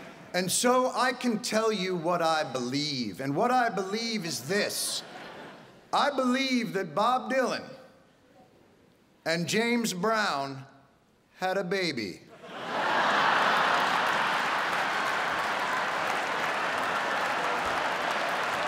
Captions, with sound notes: and so I can tell you what I believe and what I believe is this. I believe that Bob Dylan and James Brown had a baby. [audience laughing]